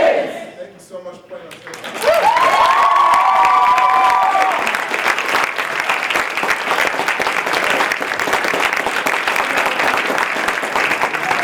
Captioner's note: applause